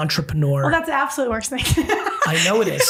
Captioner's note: laughing